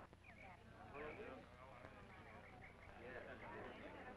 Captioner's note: crowd chattering